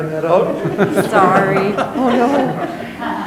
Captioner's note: chuckles